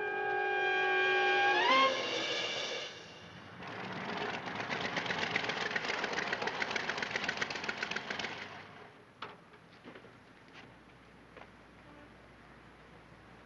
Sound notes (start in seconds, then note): 1.5 dramatic music; 7.0 engine rumbling